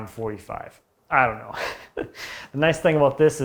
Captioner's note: laughing